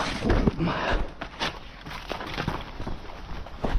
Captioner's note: grunts